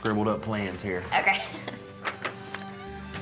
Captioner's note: laughs